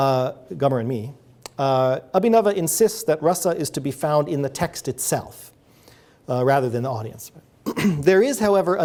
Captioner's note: clears throat